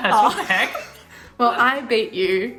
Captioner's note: laughing